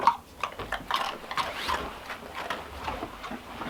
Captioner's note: crunches